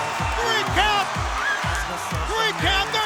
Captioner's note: crowd cheering